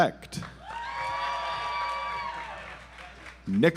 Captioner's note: audience applauds